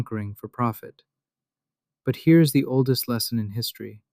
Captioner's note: thoughtful